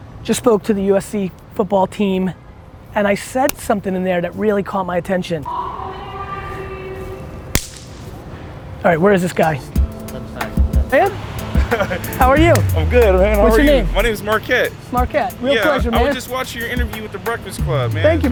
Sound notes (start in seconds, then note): 7.5 smack hands; 11.5 laughter